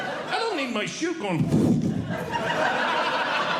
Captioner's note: blows Air; audience Laughing